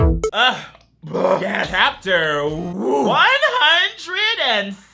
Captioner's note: screams; burps